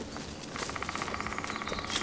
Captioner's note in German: Spechtklopfen